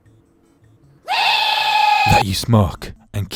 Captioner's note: screaming